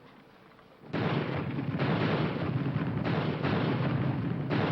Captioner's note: bombs exploding